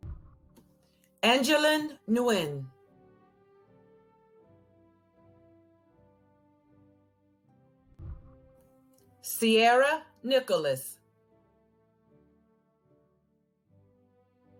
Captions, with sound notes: (whooshing) Angelyn Nguyen. (celebratory music) (whooshing) Ciarra Nicholas. (celebratory music)